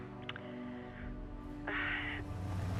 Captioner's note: sighs